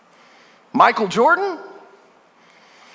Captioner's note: none